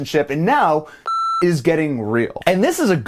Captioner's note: beep